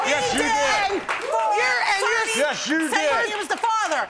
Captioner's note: both clamoring